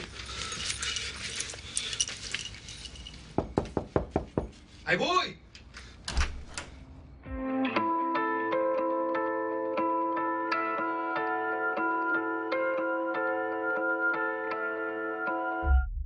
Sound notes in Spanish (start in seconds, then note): 3.3 Toques en la puerta